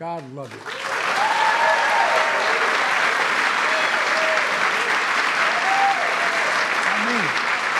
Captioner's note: applause